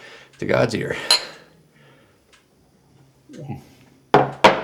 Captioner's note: glasses clink